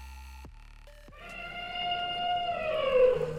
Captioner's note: elephant trumpeting